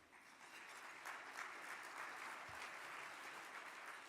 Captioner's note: audience clapping